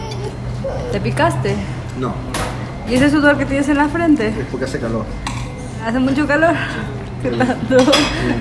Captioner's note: laughter